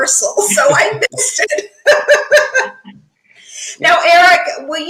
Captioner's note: laughs